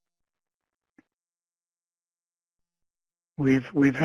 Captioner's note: none